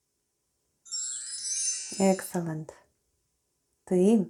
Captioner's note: chime sound